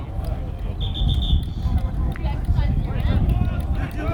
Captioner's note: whistle